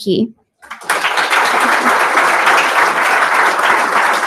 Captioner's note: applause